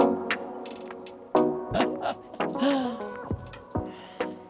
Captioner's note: laughs